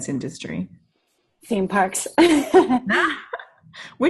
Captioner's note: laughs